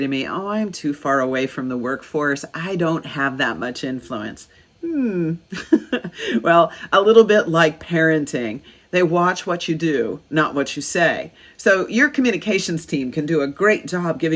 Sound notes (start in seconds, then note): 5.4 laughs